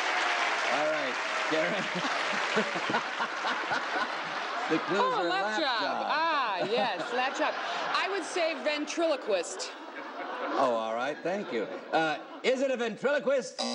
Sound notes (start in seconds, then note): 1.3 laughing